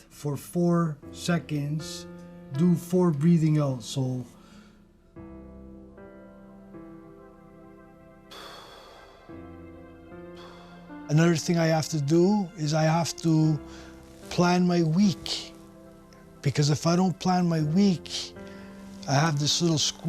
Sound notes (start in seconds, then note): 4.3 breathing